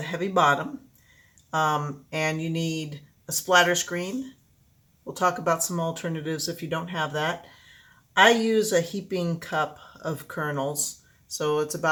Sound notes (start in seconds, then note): none